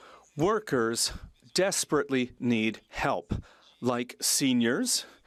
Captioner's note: speaking French